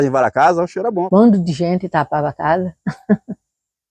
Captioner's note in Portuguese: Risos